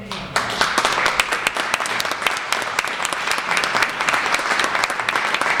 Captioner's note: applauses